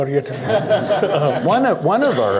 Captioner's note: audience laughs